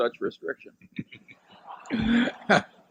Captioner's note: laughter